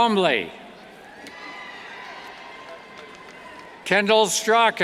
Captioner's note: cheers